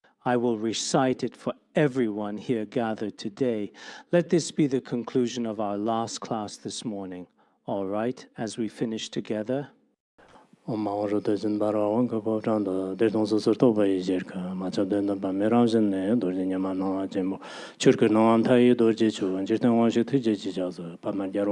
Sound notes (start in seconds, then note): 10.2 giving oral transmission in Tibetan